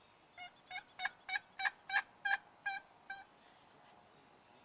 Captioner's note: turkey calls